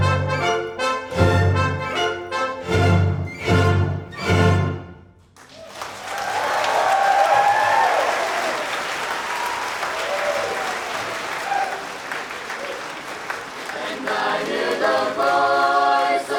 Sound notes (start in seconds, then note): 5.3 applause; 13.7 choir singing